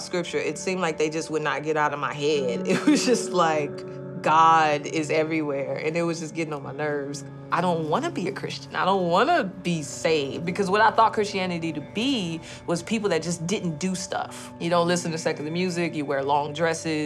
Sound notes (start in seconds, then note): 2.6 laughs